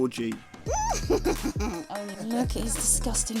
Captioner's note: cackles maniacally